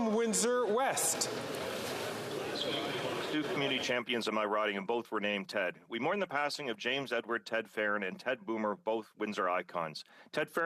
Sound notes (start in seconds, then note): 1.2 some Applause